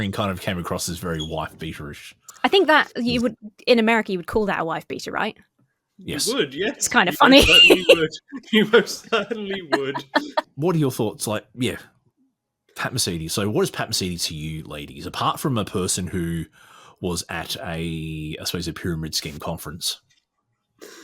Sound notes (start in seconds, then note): 6.1 laughs